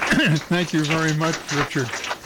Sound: applause

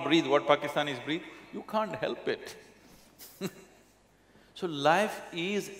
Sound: laughs

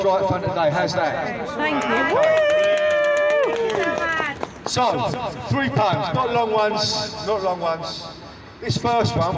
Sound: 'thank you', whooping, clapping

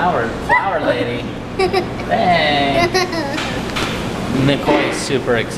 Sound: laughing

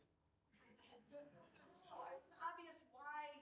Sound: speaking faintly

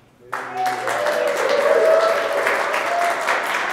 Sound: applause

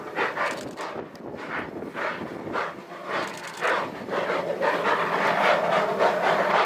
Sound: chugging

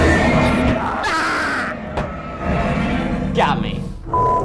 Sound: screaming

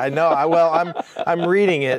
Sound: laughing

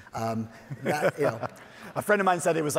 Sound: laughing

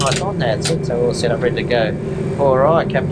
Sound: rapid clicking

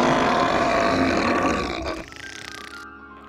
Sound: snoring; growling

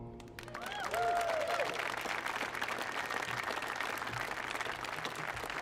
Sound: audience cheering and applauding

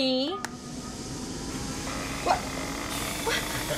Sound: inflation noises

